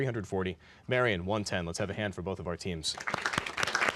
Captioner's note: applause